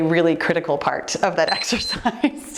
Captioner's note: timer beeps; giggling